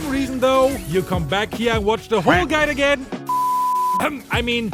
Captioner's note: beep